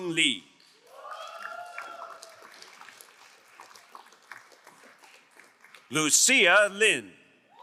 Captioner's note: crowd cheering and applauding